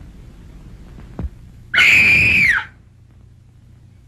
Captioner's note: screams